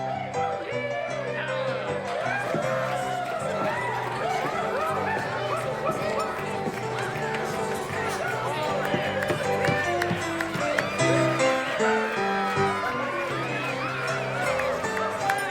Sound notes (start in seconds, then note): 0.2 jaunty piano music; 4.3 bar patrons cheering; 4.3 bar patrons clapping